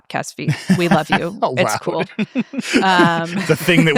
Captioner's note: laughing